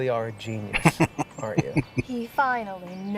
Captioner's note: laughing